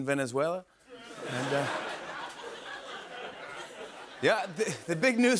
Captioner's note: laughter